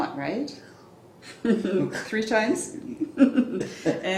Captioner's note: laughs